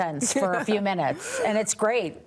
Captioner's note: laughs